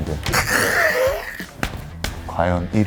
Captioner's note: slapping